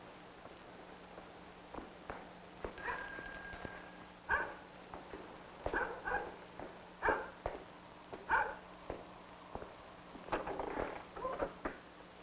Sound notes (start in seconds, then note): 2.8 bell ringing; 4.0 dog barking; 5.6 footsteps approaching